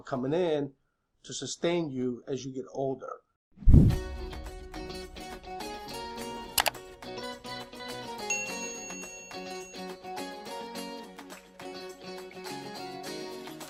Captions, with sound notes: comin' in to sustain you as you get older. (upbeat music) (clicking) (bell ringing)